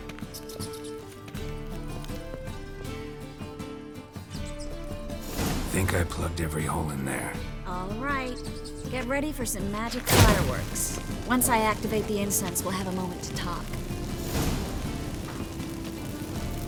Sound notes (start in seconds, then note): 0.1 rats squeaking; 10.5 flames pop